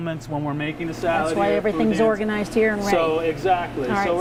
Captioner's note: none